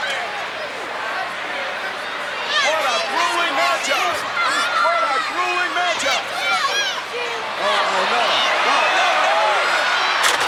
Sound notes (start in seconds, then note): 4.0 crowd shouting; 10.2 Shawn thudding